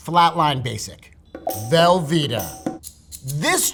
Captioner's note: rattling; upbeat music